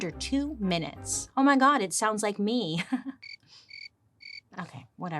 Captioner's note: crickets chirping